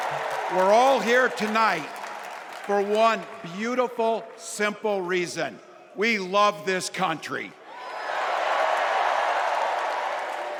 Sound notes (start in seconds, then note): 2.2 applause